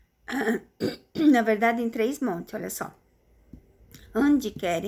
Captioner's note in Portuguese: tosse; limpando a garganta